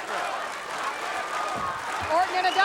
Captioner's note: audience chanting